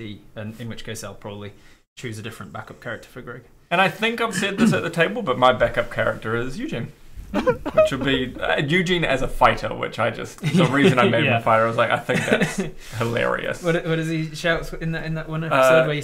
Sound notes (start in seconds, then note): 7.4 cry.wav